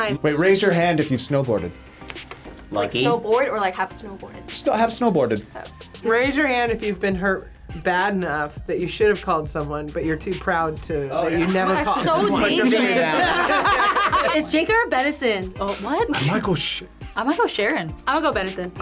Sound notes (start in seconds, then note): 11.3 group laughs; 11.4 laughs